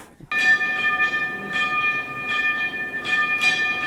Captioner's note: bar rings